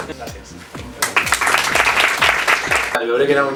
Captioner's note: applause